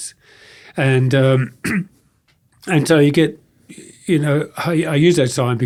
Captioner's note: clears throat